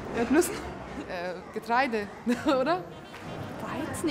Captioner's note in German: lacht